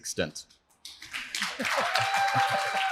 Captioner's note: applause